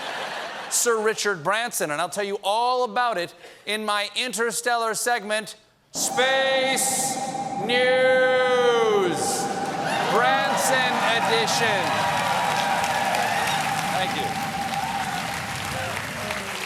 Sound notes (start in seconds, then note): 5.7 echoing; 12.3 cheers and applause